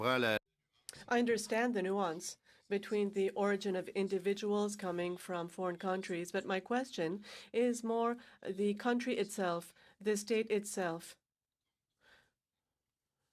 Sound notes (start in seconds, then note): 2.9 speaking in french